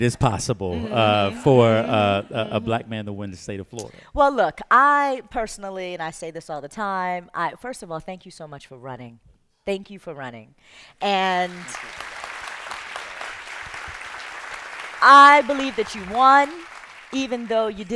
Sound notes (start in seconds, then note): 11.1 applause